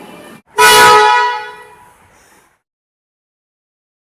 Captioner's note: air Horn